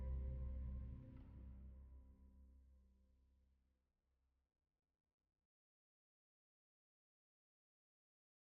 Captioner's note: utter silence